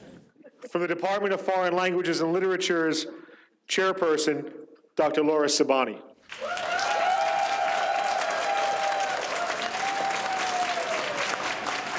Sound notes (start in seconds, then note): 0.0 audience chatter; 6.3 audience cheers